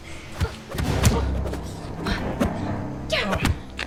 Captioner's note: punches striking